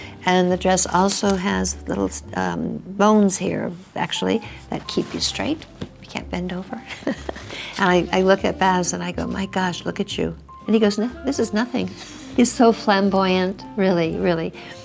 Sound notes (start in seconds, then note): 6.8 Priscilla laughs